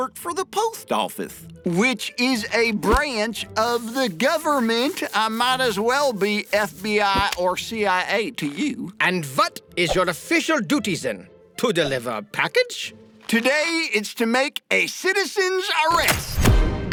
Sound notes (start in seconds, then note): none